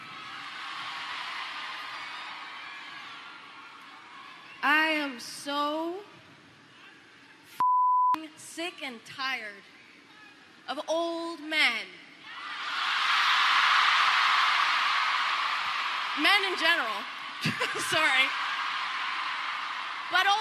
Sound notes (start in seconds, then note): 7.6 beep